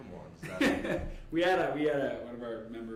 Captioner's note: laughing